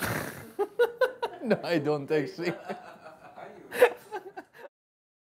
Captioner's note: Laughter over batman apron